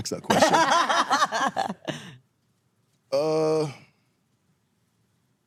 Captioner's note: laugh